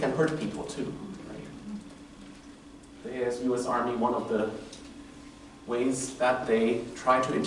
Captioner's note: murmurs